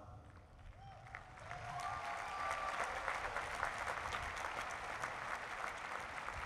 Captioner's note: applause